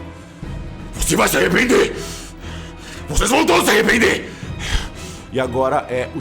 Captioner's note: panting